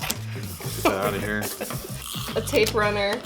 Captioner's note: laughing